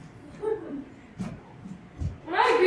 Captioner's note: laughter